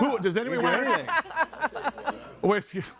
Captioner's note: laughs